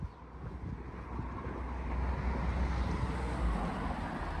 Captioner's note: traffic noise